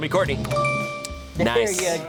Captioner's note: tense music building; bell chimes